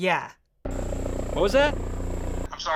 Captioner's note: helicopter noise